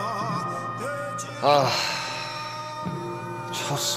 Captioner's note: sigh